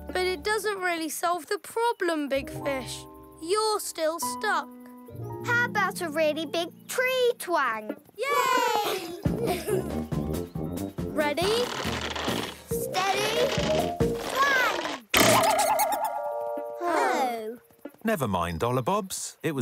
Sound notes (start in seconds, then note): 9.6 playful music; 15.1 snoofs squeaking; 15.1 twanging